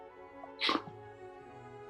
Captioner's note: snorts